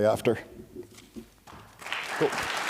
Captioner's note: applause